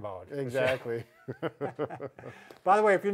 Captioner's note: both chuckle